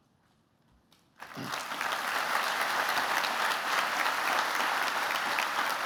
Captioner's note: applause